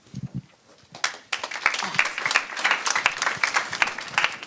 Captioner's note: audience claps